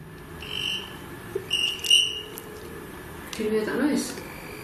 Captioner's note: device chirping